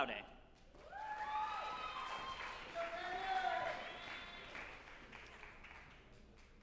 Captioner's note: group applauding and cheering